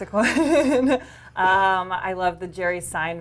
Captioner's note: laughs